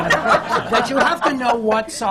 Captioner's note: laughter